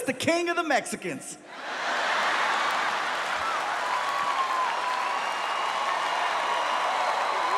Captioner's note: audience laughs; audience applauding